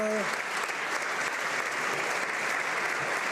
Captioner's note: some Applause